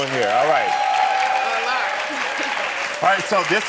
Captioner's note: audience cheering